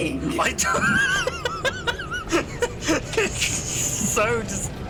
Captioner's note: laughs